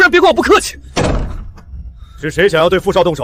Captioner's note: bang